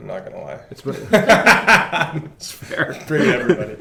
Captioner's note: laughter